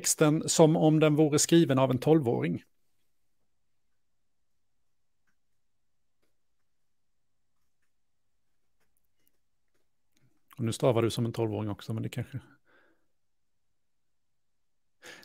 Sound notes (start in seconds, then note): 2.6 silence